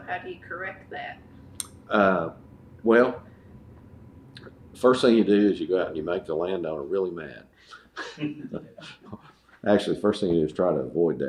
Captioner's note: laughs